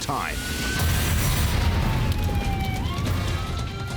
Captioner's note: siren wailing